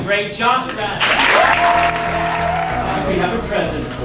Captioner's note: cheers and applause